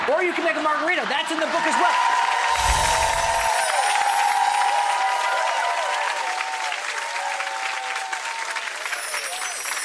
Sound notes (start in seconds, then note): 2.1 applause; 2.6 gentle chimes ringing